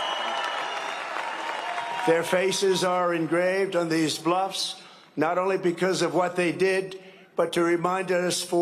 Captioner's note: cheering and applause